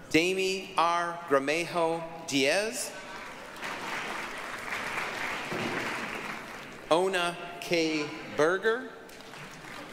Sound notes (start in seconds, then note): 3.0 applause; 9.0 applause